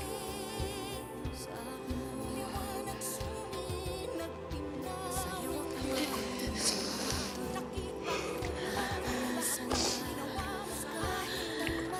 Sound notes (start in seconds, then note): 7.7 exhales shakily, sniffles